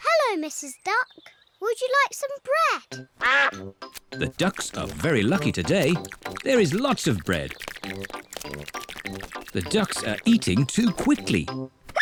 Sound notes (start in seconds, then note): 3.2 quacks